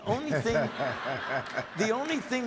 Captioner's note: audience laughs